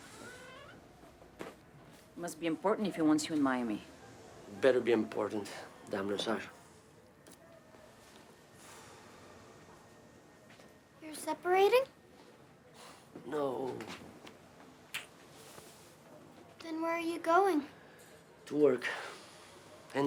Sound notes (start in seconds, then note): 13.1 sighs; 19.4 sighs